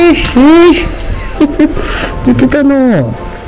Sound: laughs

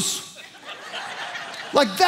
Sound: congregation laughing

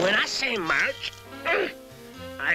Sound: grunt

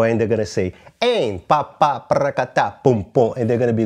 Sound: vocalizes rhythm

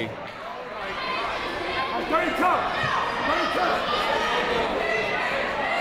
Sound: people shouting in the crowd

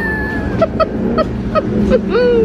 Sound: laughing

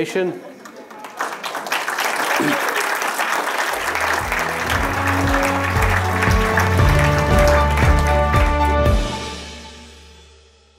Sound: applause

